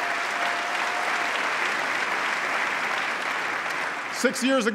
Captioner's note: applause